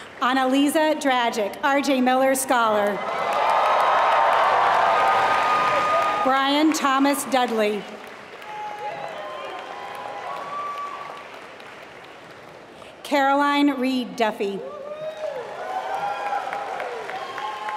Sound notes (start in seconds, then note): 0.0 applause; 5.2 applause; 7.9 applause; 14.8 applause